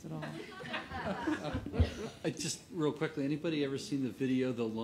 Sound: laughter

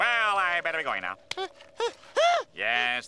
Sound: grunting

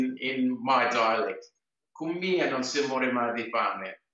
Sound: speaks Italian

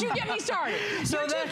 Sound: laughter

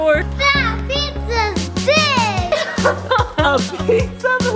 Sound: laughing

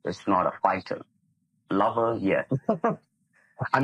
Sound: laughs

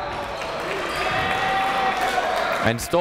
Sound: cheering

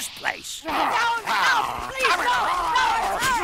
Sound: growling

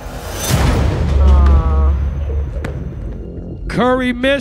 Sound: ball thudding

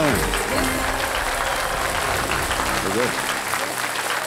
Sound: applauding

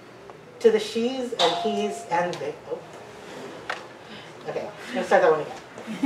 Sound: bookstore door bell rings

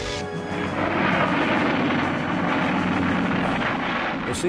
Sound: airplane engines roaring

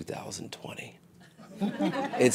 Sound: laughter

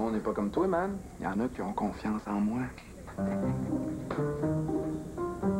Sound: Rire

